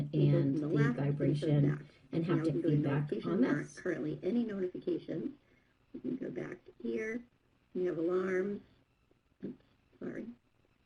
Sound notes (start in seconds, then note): 3.9 voiceover